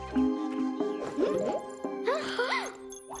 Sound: all gasp

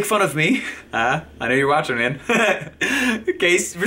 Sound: laughing

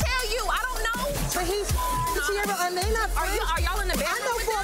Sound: beep

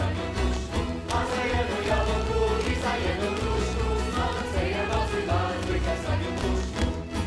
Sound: choir singing; performers slapping

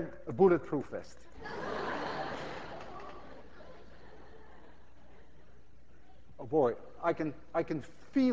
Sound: class laughs

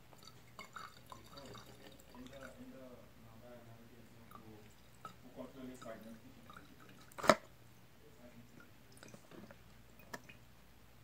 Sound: liquid Pouring

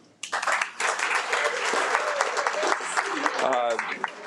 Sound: audience applauds

